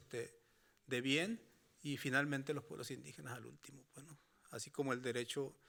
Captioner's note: speaking Spanish continues